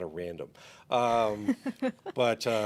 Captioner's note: chuckles